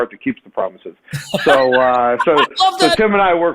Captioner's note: laughs